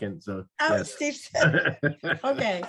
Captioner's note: chuckles